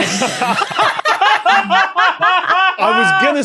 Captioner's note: others laugh uproariously